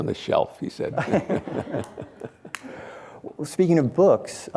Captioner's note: laughing